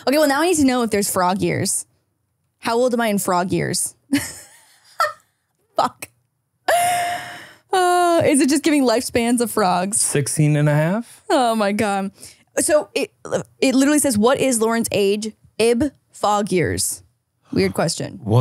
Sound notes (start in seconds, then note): 4.9 laughs